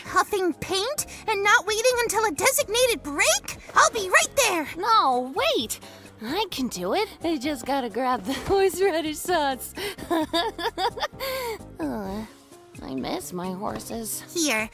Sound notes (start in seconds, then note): 9.8 giggling; 11.1 sighs